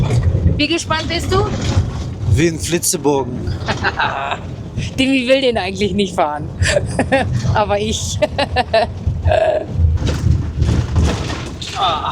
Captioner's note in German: gelächter